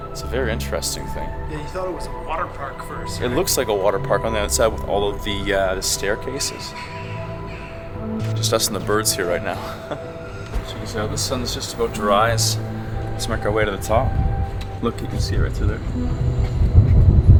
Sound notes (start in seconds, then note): 6.5 birds squeaking; 8.5 laughs